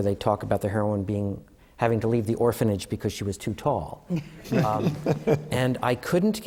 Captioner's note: laughter